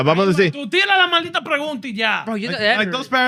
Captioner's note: speaking In Foreign Language